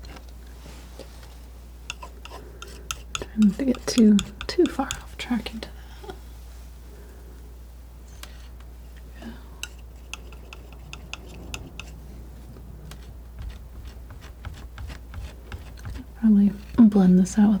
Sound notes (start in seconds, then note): 10.0 tapping